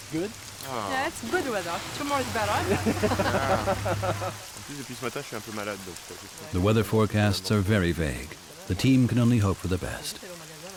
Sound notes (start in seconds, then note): 2.6 laughter; 4.6 speaking French